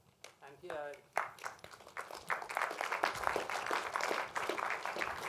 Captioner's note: applause